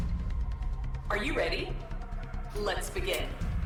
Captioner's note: computer over speaker